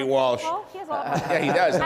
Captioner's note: laughter drowns out speaker